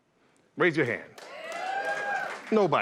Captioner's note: cheers and applause